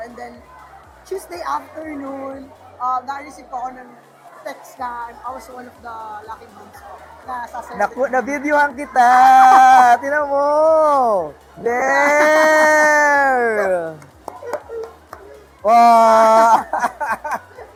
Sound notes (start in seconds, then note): 12.9 laughs; 16.6 laughs